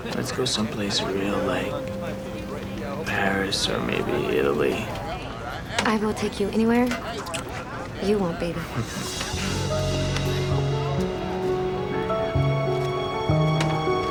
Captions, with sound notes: Let's go some place real, like... Paris or maybe Italy. I will take you anywhere you want, baby. (CHUCKLES)